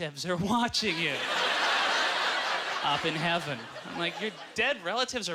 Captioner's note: audience laughter